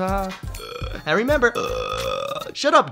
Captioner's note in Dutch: laag gegrol